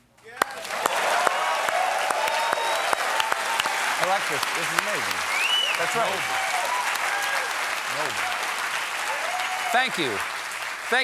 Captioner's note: cheers and applause